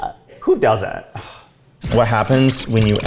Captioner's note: scoffs